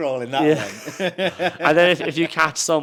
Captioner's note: host laughs; chuckles